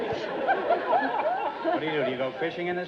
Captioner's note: audience laughter